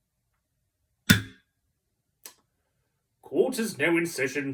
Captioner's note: gavel